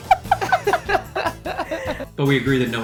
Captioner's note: laughs; both laugh